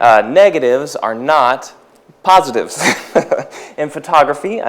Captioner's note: laughs